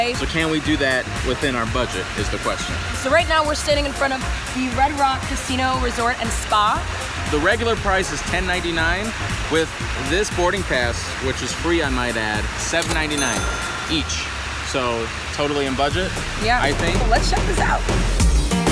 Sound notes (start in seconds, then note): 12.6 cash register rings